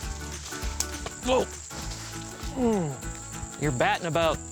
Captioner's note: grunts